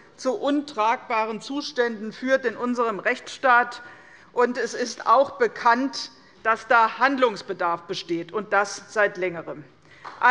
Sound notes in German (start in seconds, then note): none